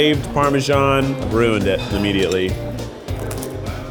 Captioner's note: crunches; light music